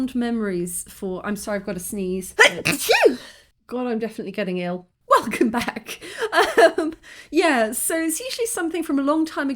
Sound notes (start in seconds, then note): 2.4 loud sneeze; 2.6 sniffle